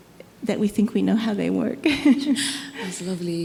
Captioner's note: laughs